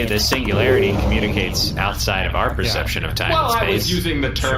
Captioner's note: none